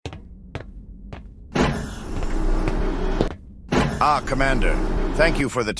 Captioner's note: door opens, footsteps